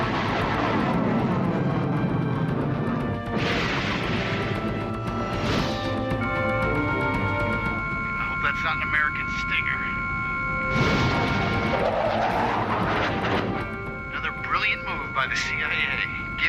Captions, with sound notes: (engine whooshing) (rocket whooshing) (computer beeps) - I hope that's not an American stinger. Another brilliant move by the CIA,